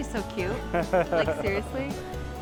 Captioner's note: laughs